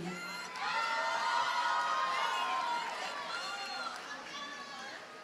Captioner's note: audience cheers and applauds